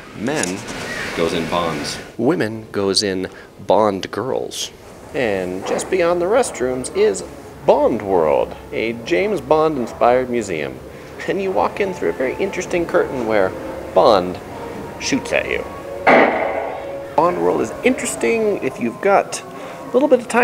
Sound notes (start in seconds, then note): 16.0 gunshot